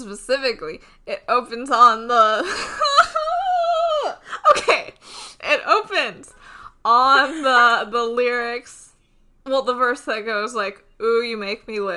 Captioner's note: screams